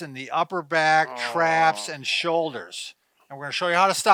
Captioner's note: groans